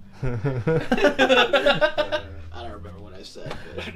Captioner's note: everyone laughs